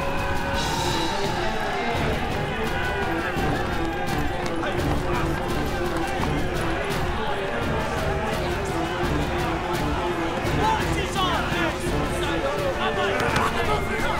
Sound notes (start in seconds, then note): 0.2 cheering; 6.1 shouting insults